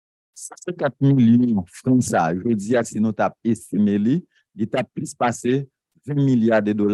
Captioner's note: speaking a foreign language